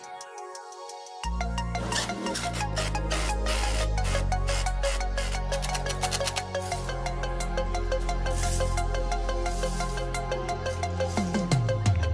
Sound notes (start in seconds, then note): 1.9 drill